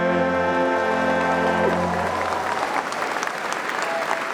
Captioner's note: applause